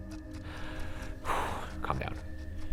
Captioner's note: eerie music; sighs